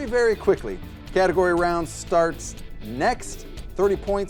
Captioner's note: clock ticking